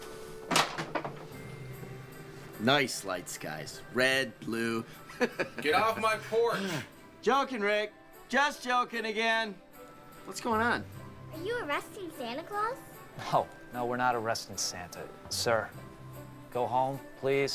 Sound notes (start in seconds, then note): 4.9 chuckles